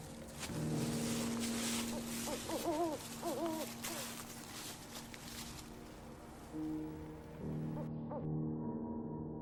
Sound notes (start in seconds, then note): 1.8 owl hooting; 7.6 owl hooting